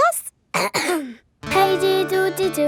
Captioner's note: clears throat